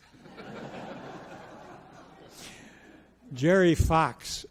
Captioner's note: audience laughs